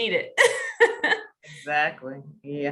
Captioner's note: laughter